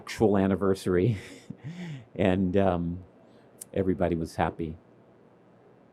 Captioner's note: laughs